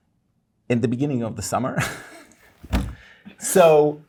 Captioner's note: laughing